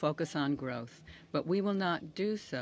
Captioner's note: speaking French